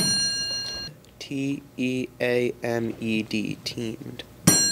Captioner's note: ding